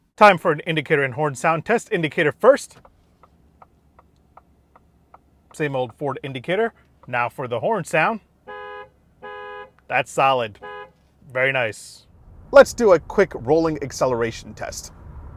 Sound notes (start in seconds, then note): 2.8 indicator clicking; 8.5 horn beeps